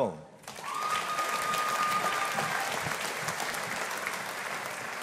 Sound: audience applauding

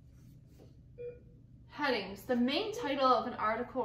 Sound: beeping

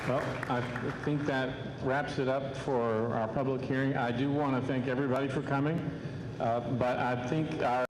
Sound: applause

